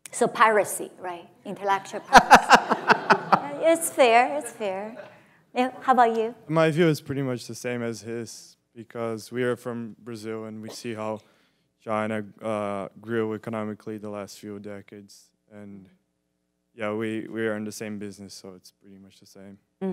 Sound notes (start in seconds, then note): 2.0 audience laughs